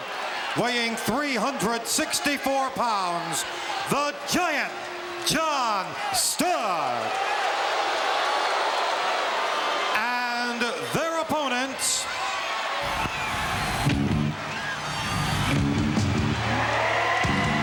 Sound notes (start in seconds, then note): 6.5 audience shouting; 13.1 dramatic music